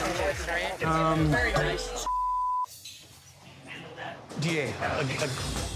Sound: beep

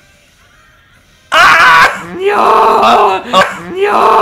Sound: screaming

